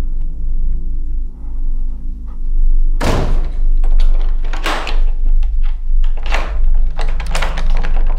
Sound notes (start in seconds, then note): 3.0 door slams; 3.8 lock clattering